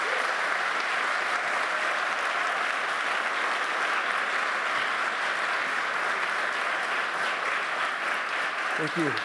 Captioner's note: applause